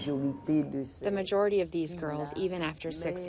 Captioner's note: through translator